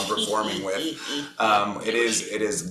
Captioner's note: chuckles